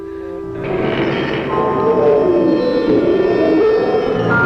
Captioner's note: monster growling